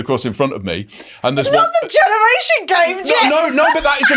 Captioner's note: laughs